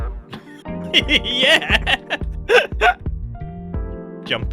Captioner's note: laughs